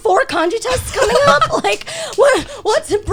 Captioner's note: guys laughing